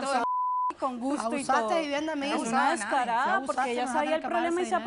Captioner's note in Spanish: Bip